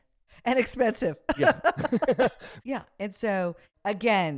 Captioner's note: laughs